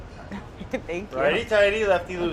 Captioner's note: laughs